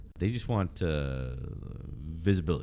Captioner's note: uh